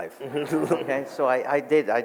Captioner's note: audience laughs